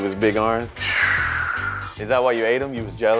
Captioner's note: sighs